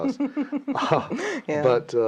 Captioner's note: laughing